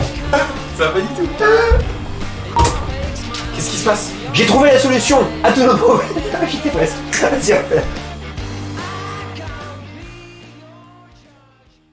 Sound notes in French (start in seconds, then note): 5.4 rires